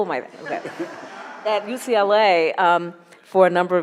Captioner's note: audience laughs